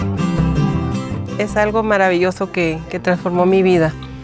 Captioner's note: speaking spanish